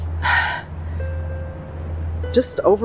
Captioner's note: exhale